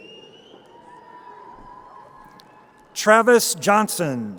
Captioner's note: crowd cheering